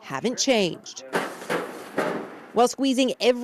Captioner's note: materials offscreen bumping